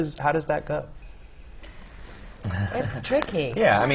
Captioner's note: laugh